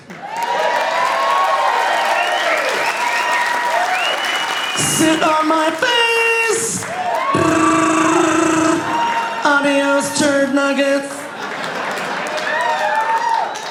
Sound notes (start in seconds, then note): 0.0 audience applauding; 0.0 audience cheering; 7.0 imitates gunshots